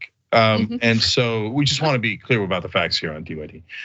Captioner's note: laugh